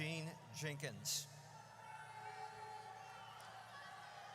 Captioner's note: audience cheers